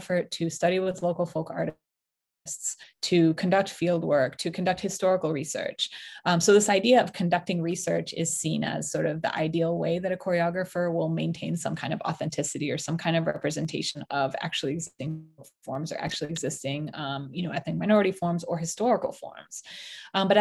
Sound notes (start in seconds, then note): 15.8 audio distortion